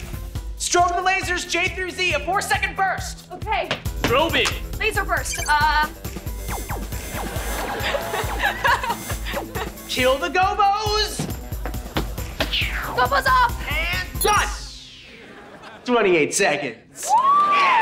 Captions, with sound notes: Strobe the lasers, J through Z, a four second burst! -Okay. -Strobing. Laser burst. [laughing] Kill the gobos! -Gobos off! -And done! Twenty-eight seconds. Whoo!